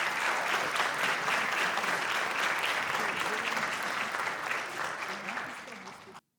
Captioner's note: applause